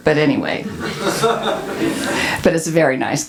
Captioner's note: audience laughs